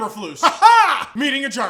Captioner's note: weird laughing